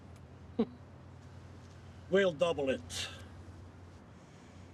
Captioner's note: scoffs